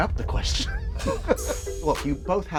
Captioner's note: laughs